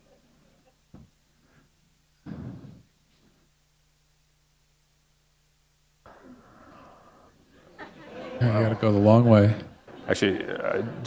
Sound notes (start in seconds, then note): 5.4 pause